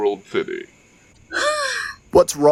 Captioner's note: sigh